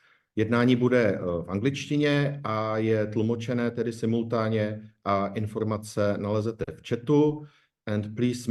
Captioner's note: repeating the instructions in Czech